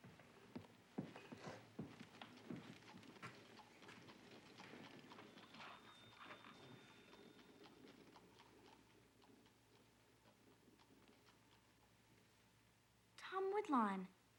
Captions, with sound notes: (hooves clopping) (register dings) Tom Woodlawn.